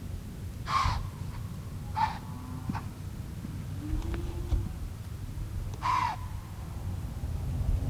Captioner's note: deer blowing multiple times